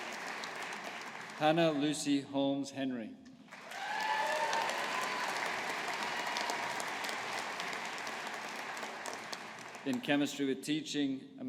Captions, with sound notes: Hannah Lucy Holmes Henry. (AUDIENCE APPLAUDING) In Chemistry with Teaching.